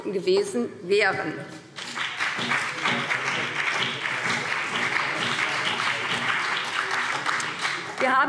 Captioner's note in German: Beifall BÜNDNIS 90/DIE GRÜNEN und vereinzelt CDU